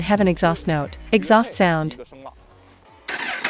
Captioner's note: exhaust sound